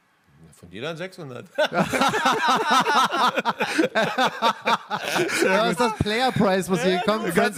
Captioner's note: laughter